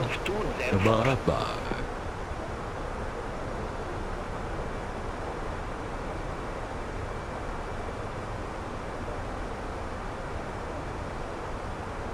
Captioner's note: radio chatter